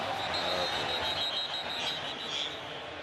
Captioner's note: whistle